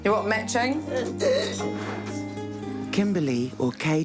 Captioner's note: gasps